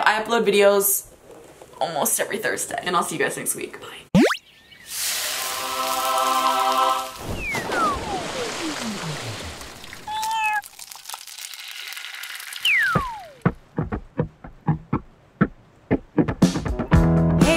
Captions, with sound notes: I upload videos almost every Thursday, and I'll see you guys next week, bye. (chorus sings) (water splashes) (cat meows) (upbeat pop music)